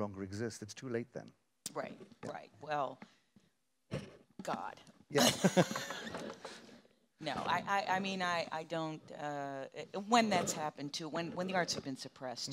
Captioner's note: knocks on wood